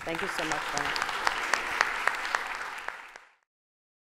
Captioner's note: applause